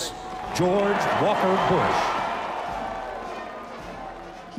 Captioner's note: cheers